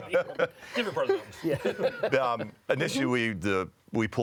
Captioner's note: laughing